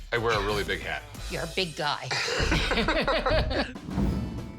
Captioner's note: laughter